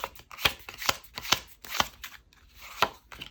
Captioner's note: drawing cards